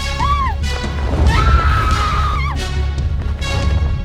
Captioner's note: Connie screams